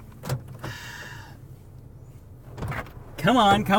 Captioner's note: sighs